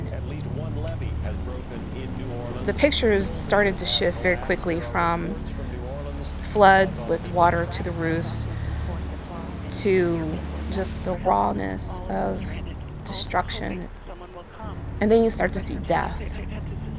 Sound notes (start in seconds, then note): 4.8 news reporters talking